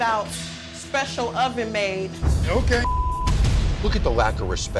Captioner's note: beep